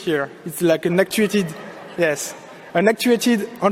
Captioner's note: audience laughing